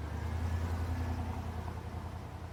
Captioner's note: vehicle driving